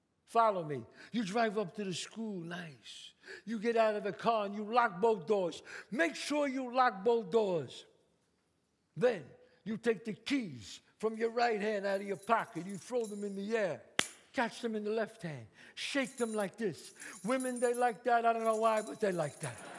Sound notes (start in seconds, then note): 13.8 claps; 19.5 audience laughs